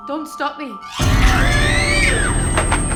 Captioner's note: screaming